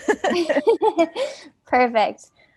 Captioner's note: laughter